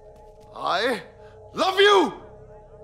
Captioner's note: Shouting